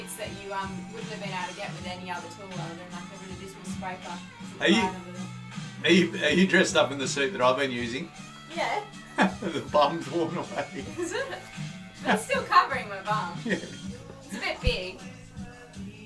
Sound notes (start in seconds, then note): 9.1 laughs